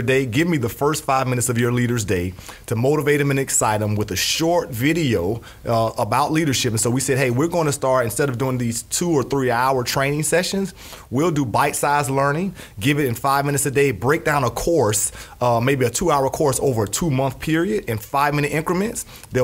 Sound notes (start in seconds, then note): none